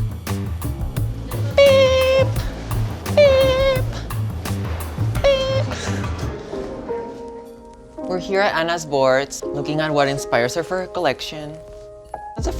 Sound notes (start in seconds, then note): 5.2 laughing